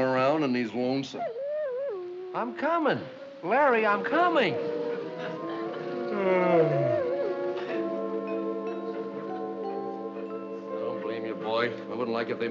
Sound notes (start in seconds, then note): 1.2 whimpering; 5.8 yawns